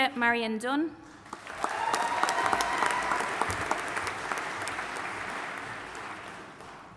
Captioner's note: audience applauding and cheering